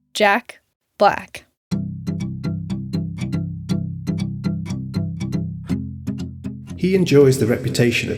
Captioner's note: soundbite of archived recording